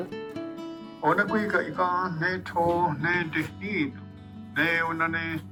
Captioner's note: man speaking Oneida